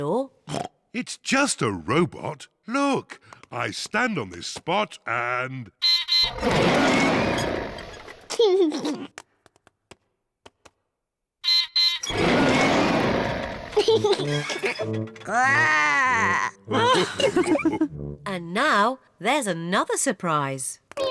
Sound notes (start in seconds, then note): 0.5 oinks; 6.2 beeps and roars; 8.1 laughs; 11.4 beeps and roars; 13.6 laughs; 15.2 growls; 15.3 all laugh